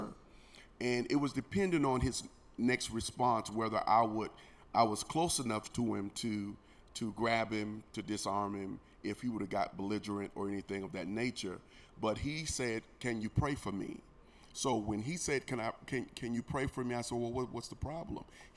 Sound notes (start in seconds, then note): none